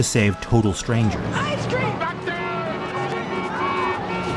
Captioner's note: honking